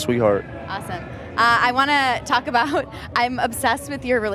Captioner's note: laughs